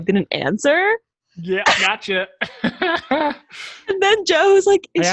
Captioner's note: laughs